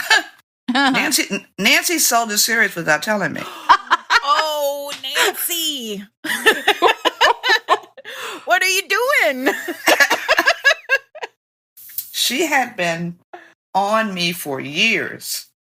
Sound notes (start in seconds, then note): 3.4 she laughs; 5.2 gasp